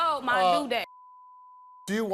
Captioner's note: beep